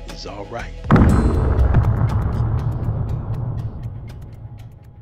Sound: screen booming

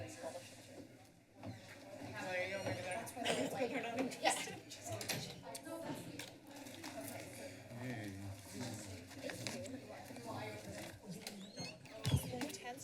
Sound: background conversations

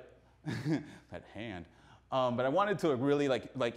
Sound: laughs

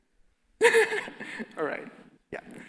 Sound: laughs

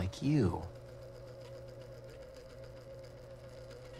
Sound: buzzing, clicking continue

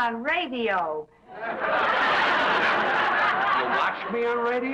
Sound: audience laughs

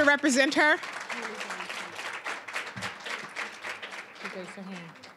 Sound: applause

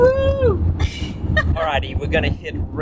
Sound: laughing

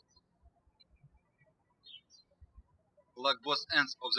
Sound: birds chirping

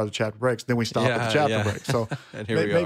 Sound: laughs

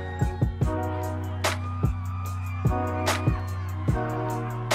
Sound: cheering

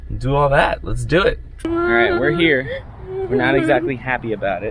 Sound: upset whimpering

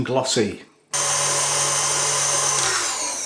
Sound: mixer whirrin

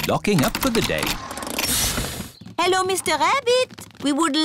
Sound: engine stops

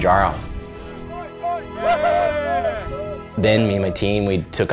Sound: cheers

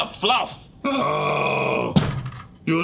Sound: Igor groaning; head thudding

